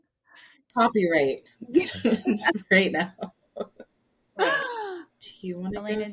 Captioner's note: laughs